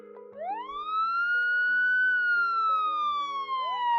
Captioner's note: gentle bright music; sirens wailing